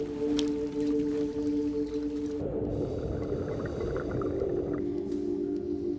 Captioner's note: water burbling